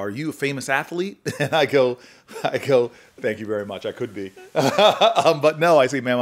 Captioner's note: chuckles